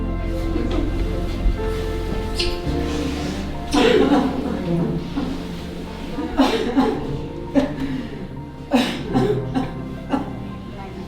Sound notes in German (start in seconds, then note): 2.8 und Nachbarin weinen